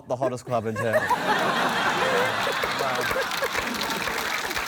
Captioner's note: laughter, applause